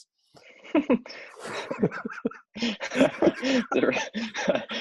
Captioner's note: chuckling